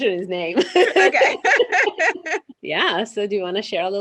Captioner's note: laughs happily